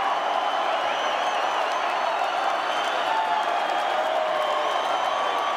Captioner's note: crowd cheering